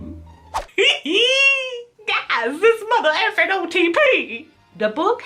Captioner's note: giggles